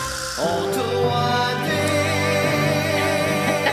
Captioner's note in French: rires